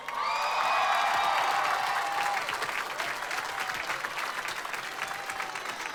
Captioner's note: applause